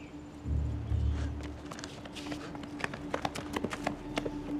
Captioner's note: footsteps thudding